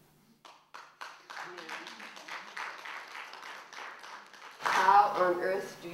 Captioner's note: applause